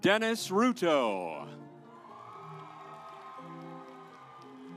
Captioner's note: audience applauds